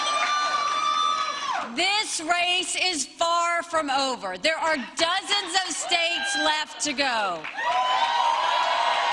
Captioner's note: cheers and applause